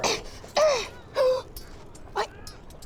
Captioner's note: gasp